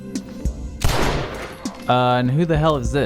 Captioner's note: gunshot